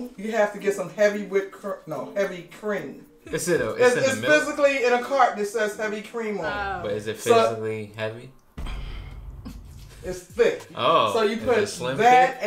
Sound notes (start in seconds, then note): 8.6 mom sighs; 9.2 chuckles; 11.8 laughs